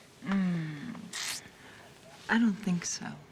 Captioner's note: moans